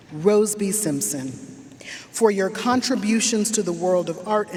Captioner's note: none